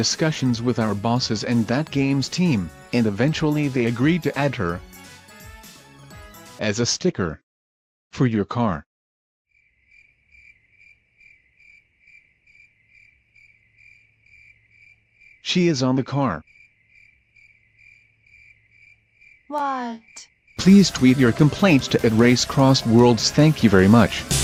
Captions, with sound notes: discussions with our bosses and that game’s team, and eventually they agreed to add her… As a sticker. For your car. *crickets* She is on the car. *crickets* Whaaaaat? PLEASE TWEET YOUR COMPLAINTS TO @RaceCrossWorlds THANK YOU VERY MUCH--